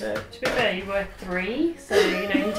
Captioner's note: laughs